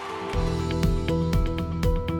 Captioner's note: cheers and applause